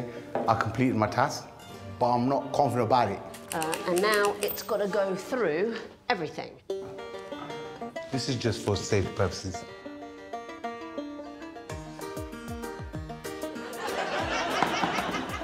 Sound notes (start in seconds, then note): 3.4 typewriter keys clacking; 8.3 upbeat music; 12.6 upbeat music